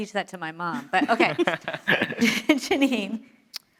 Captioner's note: laughing